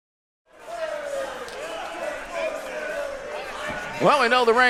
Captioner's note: audience cheering